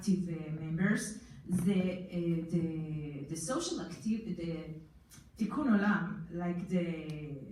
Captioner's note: foreign language